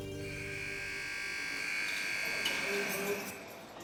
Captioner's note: door buzzes open